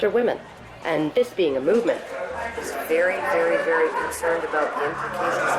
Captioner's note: crowd chatter increases